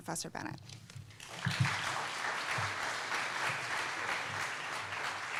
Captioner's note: applause